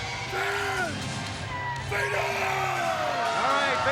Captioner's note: crowd clamoring